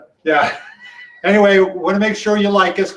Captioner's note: laughs